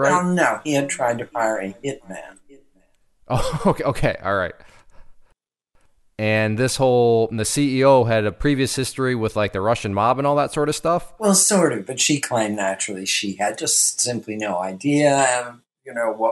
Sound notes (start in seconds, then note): 3.3 laughs